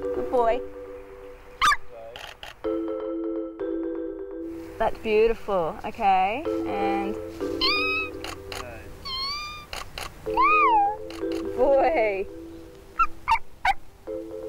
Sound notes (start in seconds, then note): 1.6 yelp; 1.6 camera shuttering; 9.0 long squeak; 9.0 squeak; 9.7 camera shuttering; 13.0 yelps